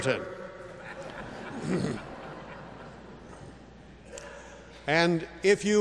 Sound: laugh

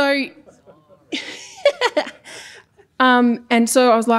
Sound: giggling

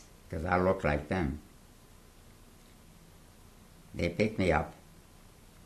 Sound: pauses for 3 seconds

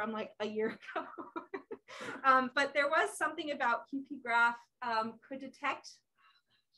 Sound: laughs

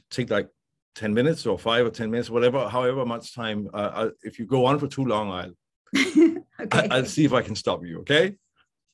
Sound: laughter

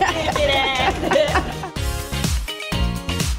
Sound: woman laughing

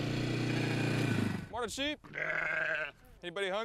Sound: engine turns off; sheep baas

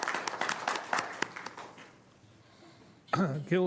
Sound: applause

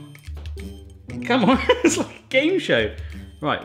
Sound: laughing

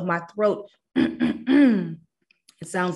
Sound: clears throat

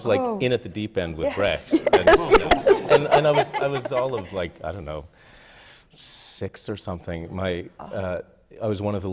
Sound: laughter

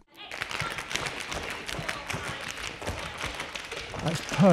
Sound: tap dancing

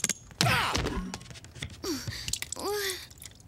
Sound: <i>straining</i>

